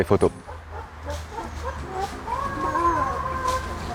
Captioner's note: chicken noise in background